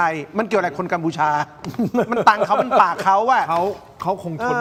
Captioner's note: laughs